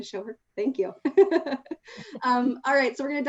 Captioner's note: chuckles